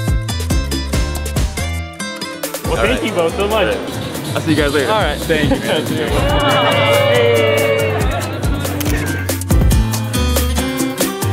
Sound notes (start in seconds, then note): 0.7 upbeat music; 6.9 crowd; 8.6 upbeat music